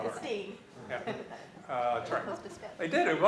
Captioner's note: laughs